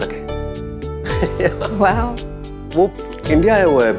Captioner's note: Udayan laughs